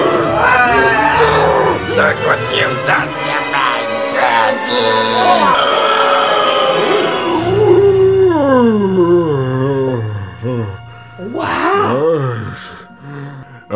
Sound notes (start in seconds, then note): 4.9 quiet, strained screaming; 7.1 tight scream transforms into a low sigh; 12.6 first breath in